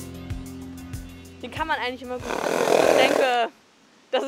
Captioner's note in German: Grunzlaut